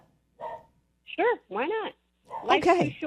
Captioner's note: dog barking